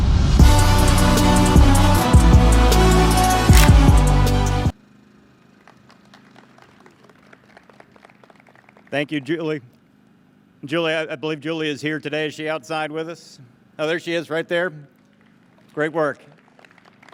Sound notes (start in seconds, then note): 3.5 camera clicks; 5.5 audience claps; 16.9 audience claps